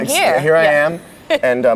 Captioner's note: laughs